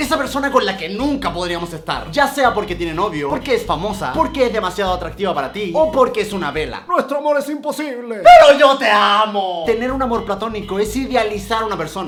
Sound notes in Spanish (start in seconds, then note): 8.9 jajaja